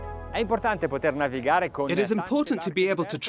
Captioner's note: foreign speaking